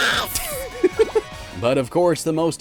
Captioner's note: chuckles